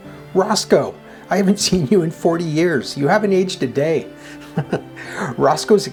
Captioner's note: chuckles